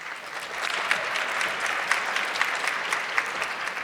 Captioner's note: audience clapping